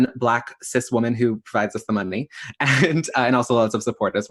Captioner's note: laughs